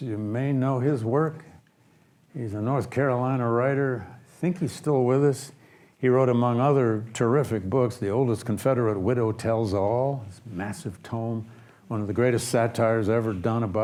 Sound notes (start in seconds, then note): none